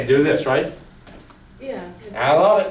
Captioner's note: voiceover